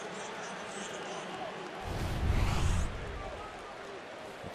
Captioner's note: pa announcement